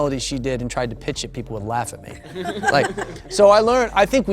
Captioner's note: laughter